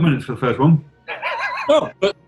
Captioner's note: sniggering